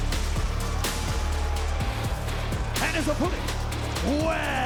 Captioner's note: crowd cheers